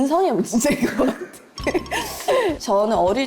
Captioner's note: chuckles